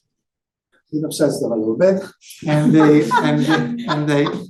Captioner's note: audience laughing